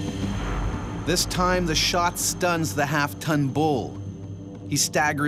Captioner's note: voiceover